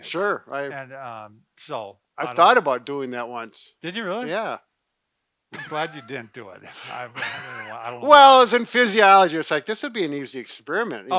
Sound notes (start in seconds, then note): 6.6 laughing